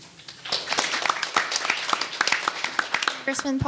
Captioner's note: audience applauding